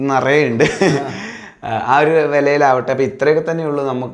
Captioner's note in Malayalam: പൊട്ടിച്ചിരി